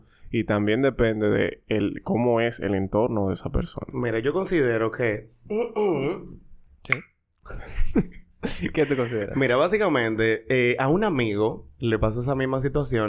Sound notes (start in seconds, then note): 6.8 denial sound, tongue clicking; 8.4 laughs